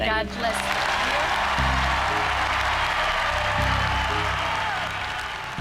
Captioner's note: audience cheering; audience applauding